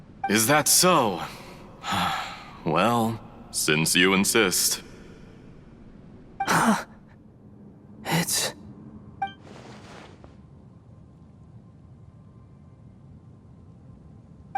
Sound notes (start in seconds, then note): 1.2 sigh; 6.4 gasp